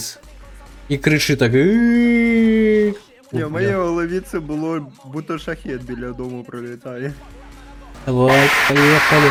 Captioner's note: drone